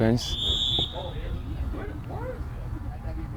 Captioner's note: whistle